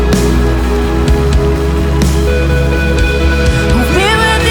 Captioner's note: crowd applauding